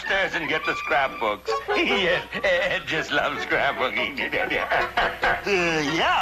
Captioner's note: Mr. Magoo chuckling